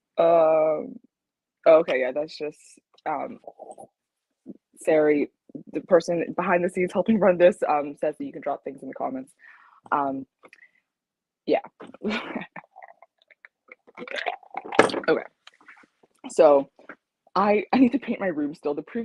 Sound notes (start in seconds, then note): 12.8 ice clinks; 14.7 tumbler thuds